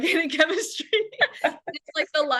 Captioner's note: laughter